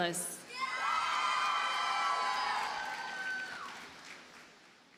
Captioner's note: audience cheers and applauds